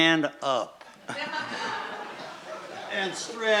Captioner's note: laughing